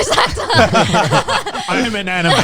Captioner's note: everyone laughing